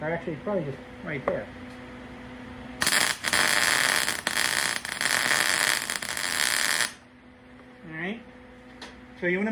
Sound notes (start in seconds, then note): 2.8 buzzing